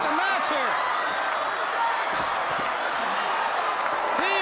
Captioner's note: crowd cheering